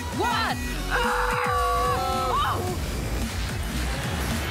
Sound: all exclaim

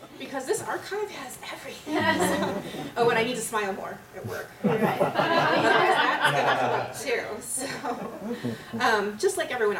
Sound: laughter

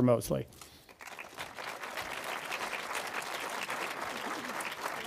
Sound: audience applauds

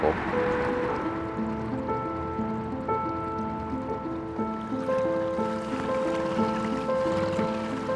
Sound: piano instrumental music; water splashing

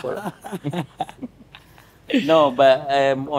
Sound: both laughing

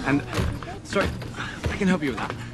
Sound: suitcase thudding

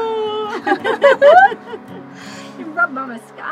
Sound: all laughing

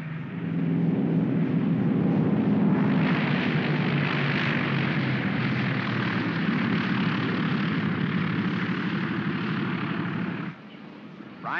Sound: aircraft rumbles

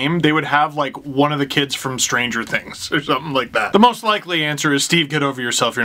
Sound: laugh

